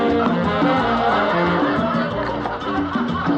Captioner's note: laughing, chattering